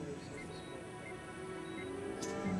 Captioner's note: ekg beeping